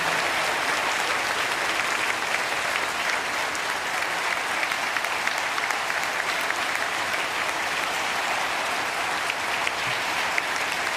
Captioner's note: applause